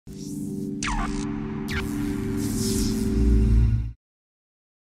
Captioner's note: electricity buzzing